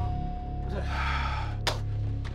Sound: exhaling

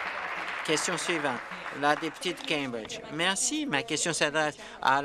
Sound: applause

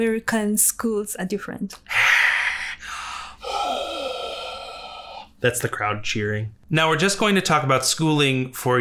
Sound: whispered 'hah' noises

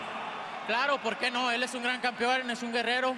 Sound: speaking Spanish

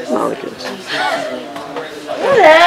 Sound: chatter

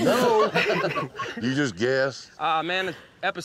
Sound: everyone chuckling

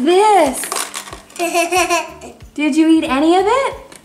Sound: laughing

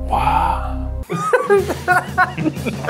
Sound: laughter

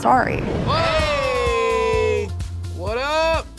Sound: yelling

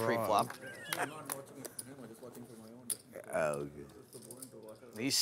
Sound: chattering

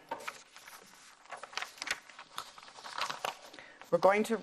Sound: papers rustling

